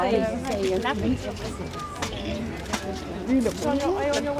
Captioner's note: chatter